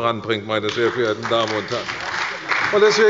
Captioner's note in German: Beifall bei der CDU und dem BÜNDNIS 90/DIE GRÜNEN